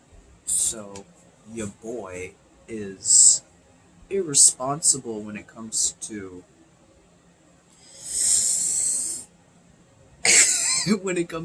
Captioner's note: nervous laugh